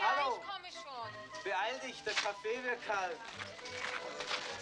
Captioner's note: man Continues In Foreign Language